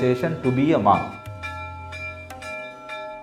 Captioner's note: bell ringing; slow Sitar playing